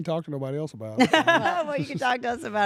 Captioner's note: laugh